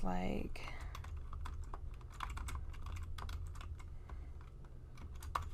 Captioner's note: typing ASMR